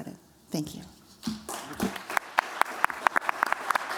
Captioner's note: applause